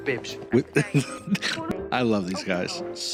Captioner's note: laughs